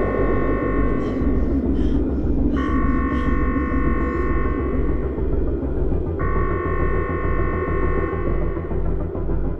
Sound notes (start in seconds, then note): 1.0 Sandra panting; 5.2 suspenseful music continues